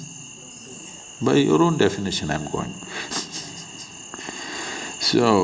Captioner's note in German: lacht